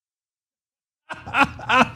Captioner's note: laugh